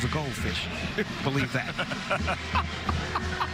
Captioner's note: laughter